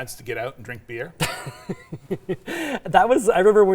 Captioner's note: both laughing